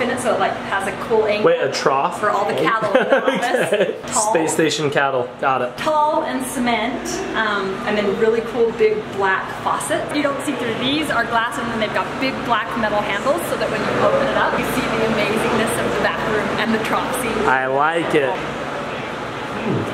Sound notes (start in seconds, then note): 2.7 laughing